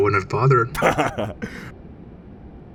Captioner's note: Heavy Guy chuckles